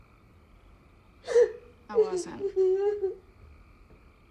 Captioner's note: sobbing